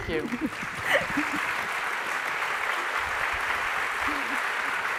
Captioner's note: wide applause from the audience